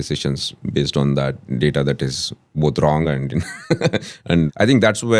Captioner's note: laughs